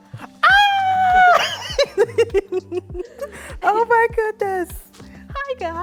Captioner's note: laughs